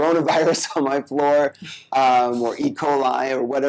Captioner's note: laughs